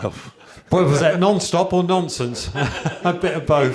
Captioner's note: chuckles